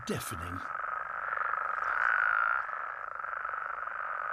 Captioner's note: croaking, chirping